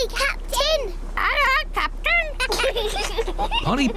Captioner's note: children giggle